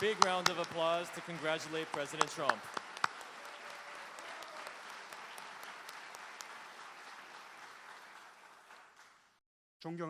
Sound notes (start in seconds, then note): 3.1 applause